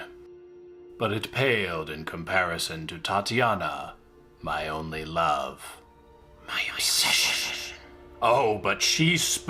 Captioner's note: hisses